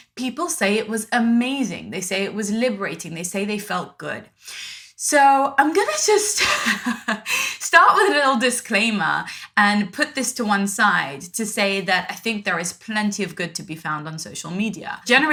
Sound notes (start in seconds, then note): 6.4 laughs